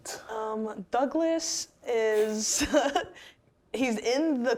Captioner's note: laughing